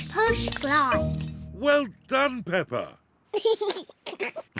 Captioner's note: giggles